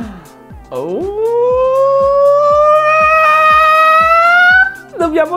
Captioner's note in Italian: ululato di gioia